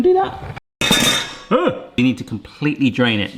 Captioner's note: bowl clanking